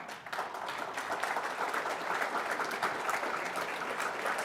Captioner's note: applause